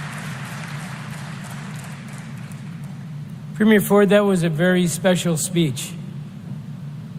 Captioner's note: applause